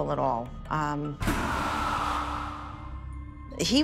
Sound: ghostly scream

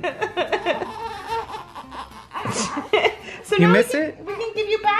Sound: laughing; baby crying

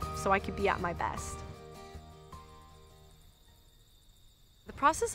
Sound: crickets chirping

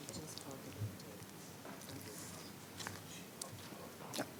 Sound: speaking faintly

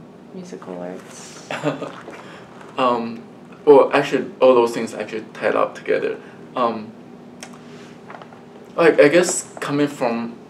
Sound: laughs

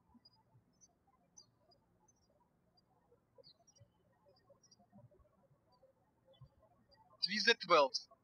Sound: birds chirping

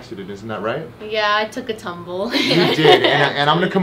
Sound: laughing

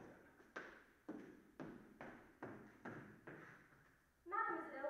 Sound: footsteps approaching

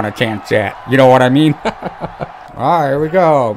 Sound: chuckles

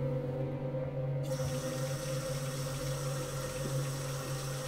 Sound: faucet running water

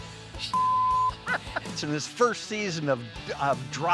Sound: laughing

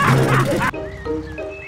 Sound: all laughing

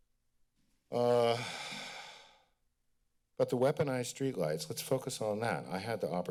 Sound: sigh

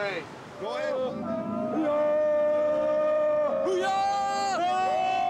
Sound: cheering and screaming

